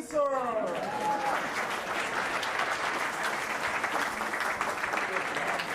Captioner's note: cheers and applause